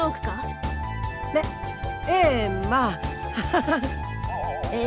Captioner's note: awkward laugh